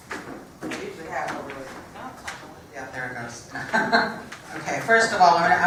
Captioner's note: laugh